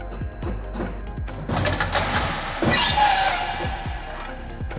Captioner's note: machine whirs